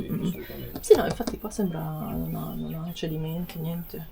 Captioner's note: clear throat